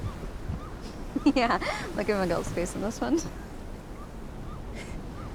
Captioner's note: laughs